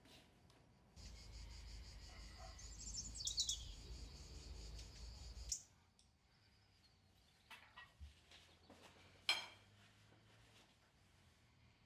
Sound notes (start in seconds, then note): 1.0 birds singing